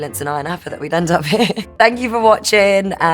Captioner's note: laughs